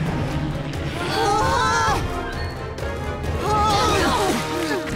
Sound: shouting

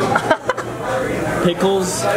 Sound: laughs

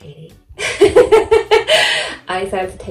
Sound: laughs

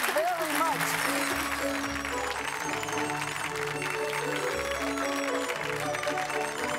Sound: applause; crowd

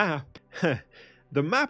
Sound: laughs

